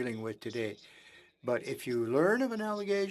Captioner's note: speaking French